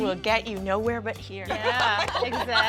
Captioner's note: all laughing